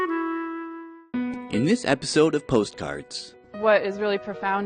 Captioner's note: voiceover